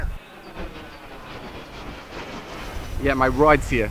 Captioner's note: airplane whooshes overhead